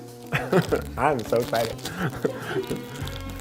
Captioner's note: chuckles